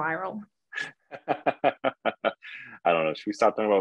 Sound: laughing

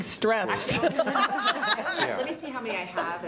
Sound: laughing

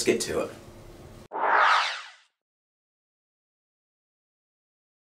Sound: swooshing sound

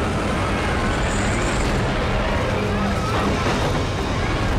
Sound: heavy wind gusts

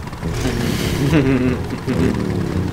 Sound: laughs

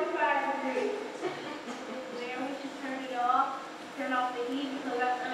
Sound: laugh

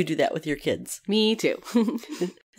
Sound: laugh

